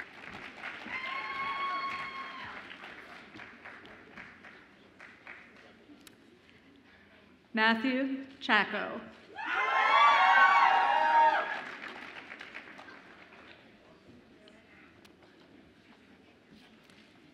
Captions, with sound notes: (audience applauds and cheers) Matthew Chacko. (audience applauds and cheers)